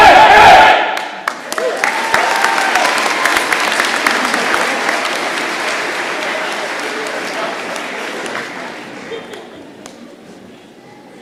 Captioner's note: applause